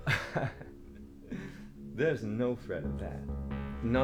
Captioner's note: Captain Brookes laughs